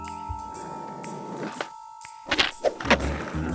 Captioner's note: skateboard rolling